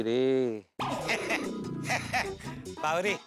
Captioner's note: laughing